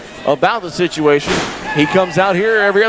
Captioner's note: body crashing